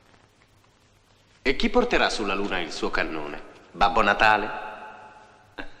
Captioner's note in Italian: risate